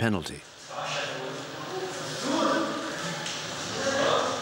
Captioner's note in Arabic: الصوت المنطوق باللغة العربية